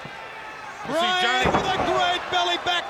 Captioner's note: body thudding